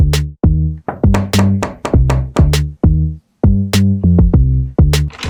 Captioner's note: knock at the Door